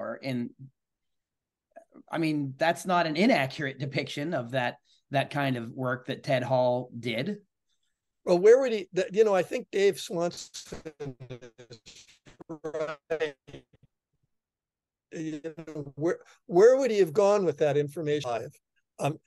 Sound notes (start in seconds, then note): 15.2 glitchy internet